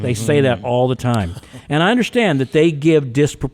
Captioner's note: podcaster chuckling